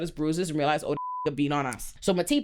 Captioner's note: beep